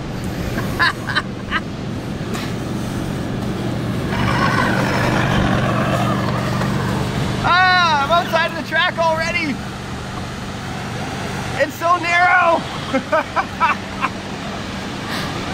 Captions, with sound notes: Ha ha ha ha. (truck rumbles) Ah, I'm outside of the track already. It's so narrow. (laughing)